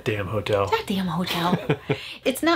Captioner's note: chuckles